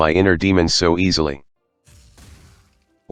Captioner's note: blast